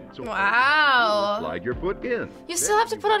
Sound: voice-over

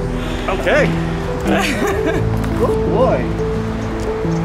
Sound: laughter

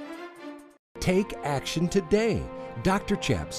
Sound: voiceover

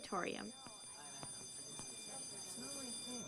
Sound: bell rings

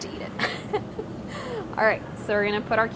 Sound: laughs

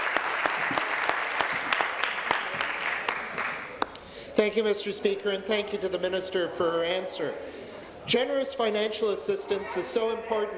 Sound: applause

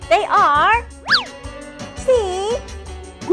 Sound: high pitch swooshing

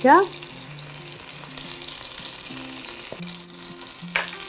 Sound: chicken sizzles

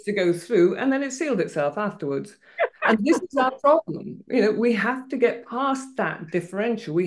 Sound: laughter

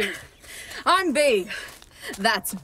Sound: Sim arrives back, panting

